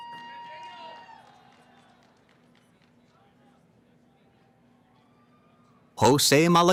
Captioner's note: cheering